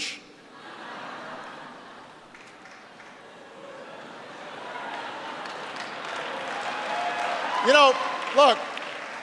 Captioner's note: laughter and applause